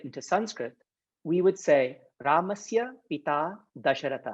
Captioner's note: speaking in Sanskrit